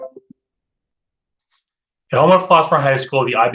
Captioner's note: beep